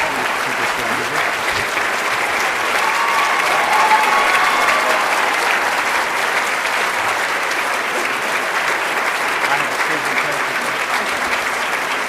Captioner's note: applause and Cheering